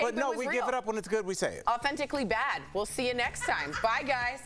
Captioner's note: laughter